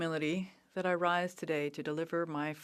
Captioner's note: speaking French